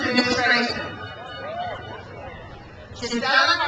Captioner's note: crowd cheers